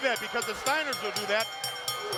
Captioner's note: bell ringing